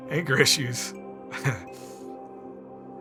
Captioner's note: laughing